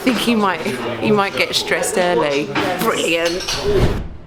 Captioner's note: laughing; air whooshing